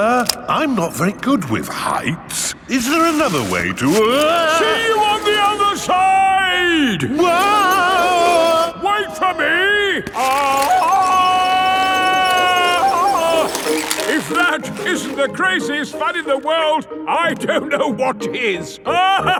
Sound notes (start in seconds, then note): 7.9 yelling; 11.3 yelling